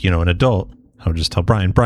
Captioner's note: uh